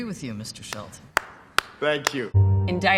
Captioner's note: clapping